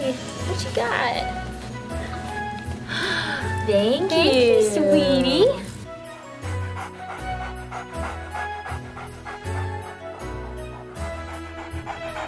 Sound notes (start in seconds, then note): 2.8 gasping; 6.1 dog panting